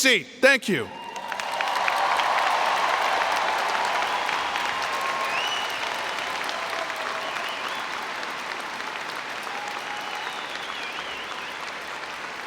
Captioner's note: cheering and Applause